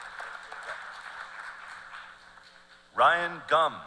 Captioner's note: cheers and applause